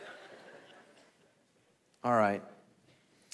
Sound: congregation laughing

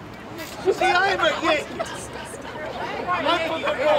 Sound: crowd yelling

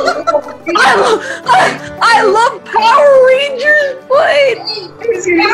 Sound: laughter

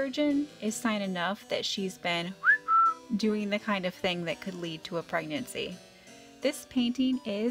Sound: whistle

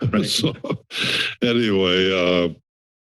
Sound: laughter; inhales

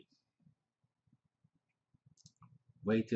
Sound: pause

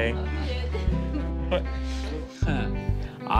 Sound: laughter

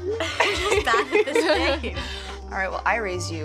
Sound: Astrid laughs

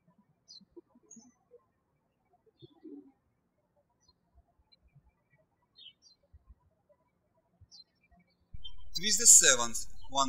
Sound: birds chirping

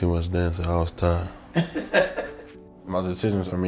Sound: laughing

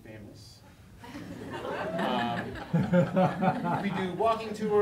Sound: laughing

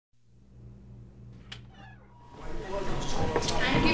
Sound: door creaking

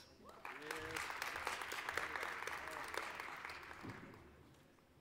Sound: applause

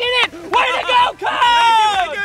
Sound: applause

